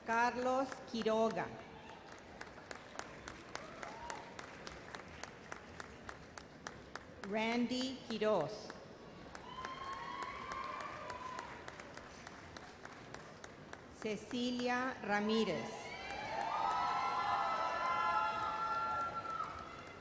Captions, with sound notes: Carlos Quiroga. (audience applauds) Randy Quiroz. (audience applauds) Cecilia Ramirez. (audience cheers and applauds)